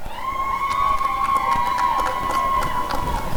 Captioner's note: applause and cheering